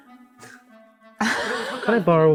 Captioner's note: laughing